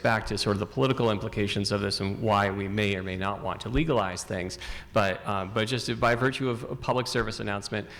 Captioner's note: none